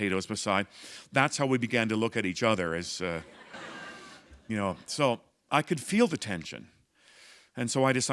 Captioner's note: laughter